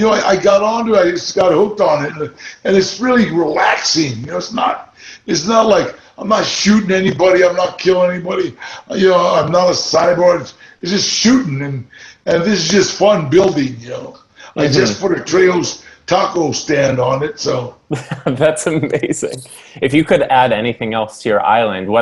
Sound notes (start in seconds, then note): 17.8 chuckles